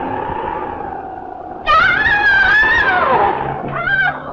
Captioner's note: screaming